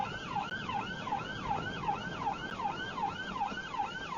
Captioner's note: police car siren